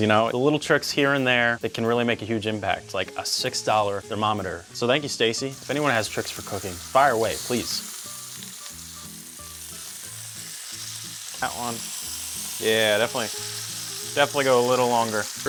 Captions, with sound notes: the little tricks here and there that can really make a huge impact, like a $6 thermometer. So thank you, Stacie. If anyone has tricks for cooking, fire away, please. (upbeat music) (pork sizzling) That one, yeah, definitely, definitely go a little longer.